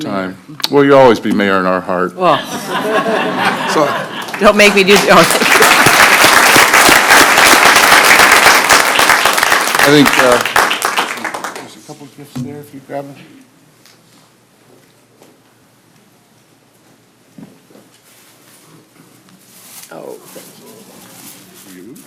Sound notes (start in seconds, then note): 14.6 applause